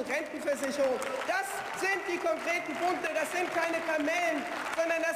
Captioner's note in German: Beifall